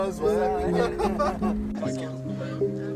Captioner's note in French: ils rient